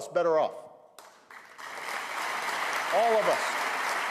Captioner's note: applause